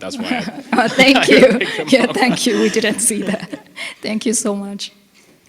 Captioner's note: laughing